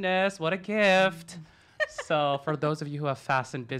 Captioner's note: laughs